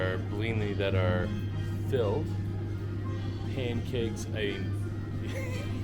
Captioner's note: laughs